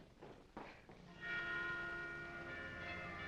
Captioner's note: church bells ringing